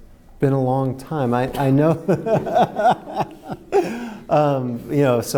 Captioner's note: laughing